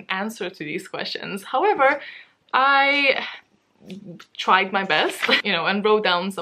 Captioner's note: laughs